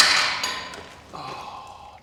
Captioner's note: clanking